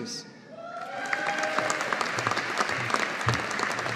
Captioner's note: audience applauding